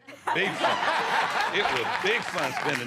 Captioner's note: laughter